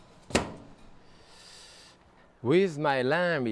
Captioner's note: oven banging